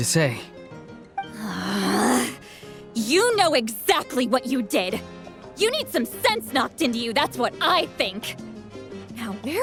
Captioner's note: scoff